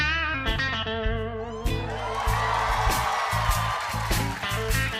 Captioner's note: cheers and applause